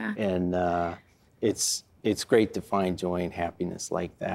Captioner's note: none